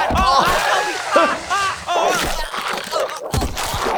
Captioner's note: grunts; flesh squishing; body thudding